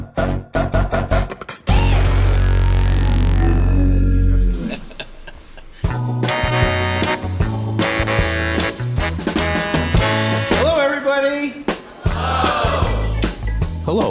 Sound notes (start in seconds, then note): 0.8 upbeat music; 4.4 chuckling; 6.3 vibrant music